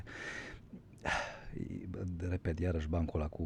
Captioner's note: gasp